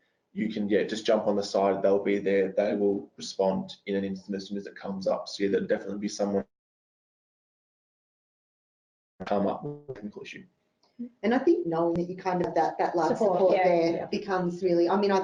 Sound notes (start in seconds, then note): 9.2 audio distorts